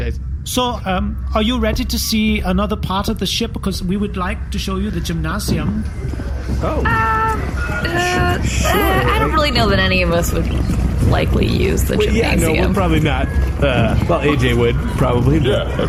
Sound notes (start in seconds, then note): 9.2 hesitant; 13.6 laughing